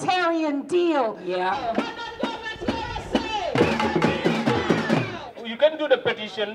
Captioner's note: chant